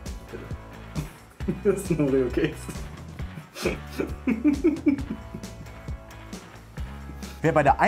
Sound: strange happy noises

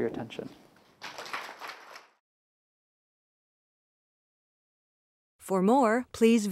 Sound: applause

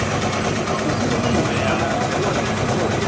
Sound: machine gun firing

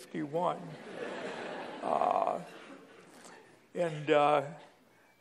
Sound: laughter

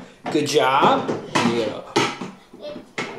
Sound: clanking

